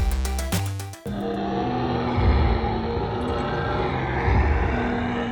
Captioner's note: dinosaur growls